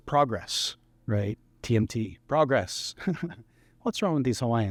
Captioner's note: laughter